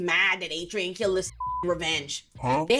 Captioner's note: beep